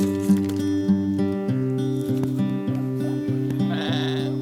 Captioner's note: cheese shredding